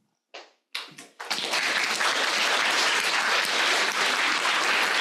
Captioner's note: audience clapping